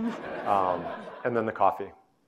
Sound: audience laughing

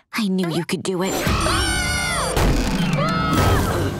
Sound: screaming

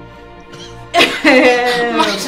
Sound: chuckling

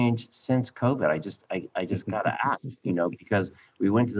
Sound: chuckling

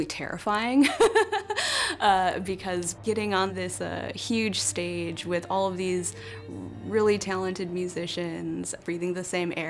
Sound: laughs

